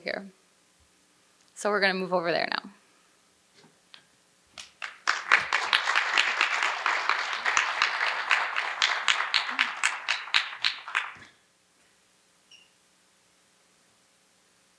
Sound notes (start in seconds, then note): 2.7 applause